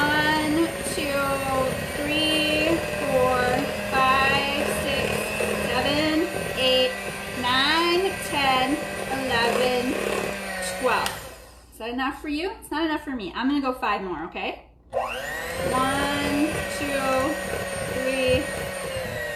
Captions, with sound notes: One, two, three, four, five, six, seven, eight, nine, 10, 11, 12. So it's enough for you. It's not enough for me. I'm gonna go five more okay? (mixer whirring) One, two, three, four,